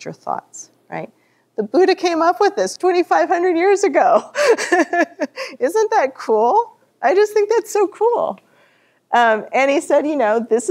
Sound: laughter

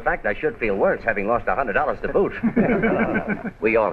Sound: laughter

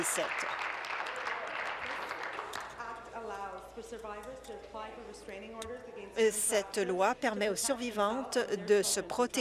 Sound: applause

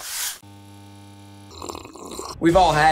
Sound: broom swooshing; buzzer resounding; woman slurping

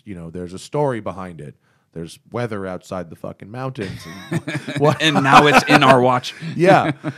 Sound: both laugh

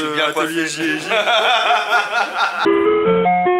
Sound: laughs

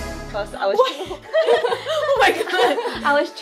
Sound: laughs

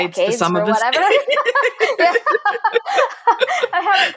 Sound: both laughing

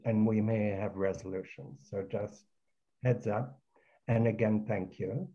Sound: none

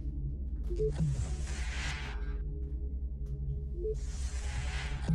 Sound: door beeps and whooshes

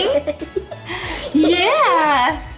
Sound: laughs

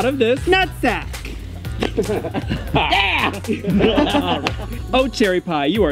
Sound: laughter

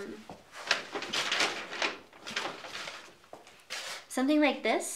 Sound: paper rustling

